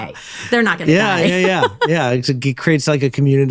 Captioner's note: laughs